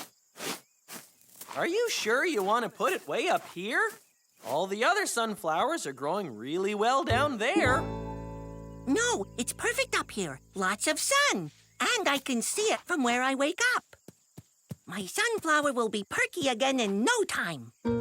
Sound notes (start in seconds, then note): none